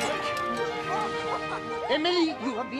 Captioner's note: <i> both laughing</i>